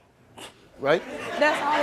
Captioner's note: audience laughs